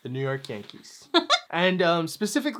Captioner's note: chuckles